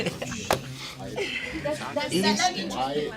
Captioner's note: students murmur